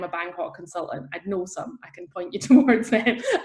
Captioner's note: laughs